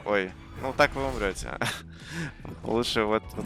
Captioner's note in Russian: смех